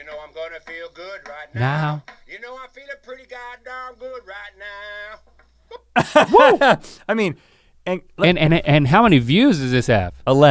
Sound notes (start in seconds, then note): 5.8 Rhett laughs